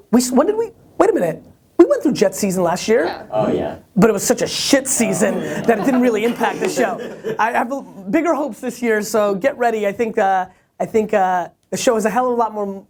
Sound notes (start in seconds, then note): 3.6 voiceover